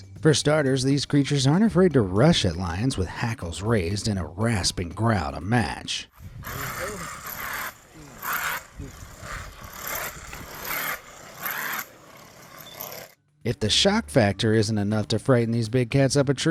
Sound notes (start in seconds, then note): 6.4 badger growling